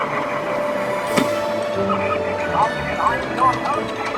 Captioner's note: game sound effects